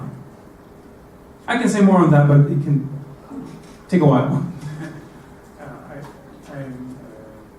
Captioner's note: laugh